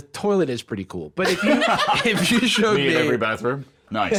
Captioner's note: laughs